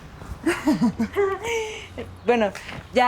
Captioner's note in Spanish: Risas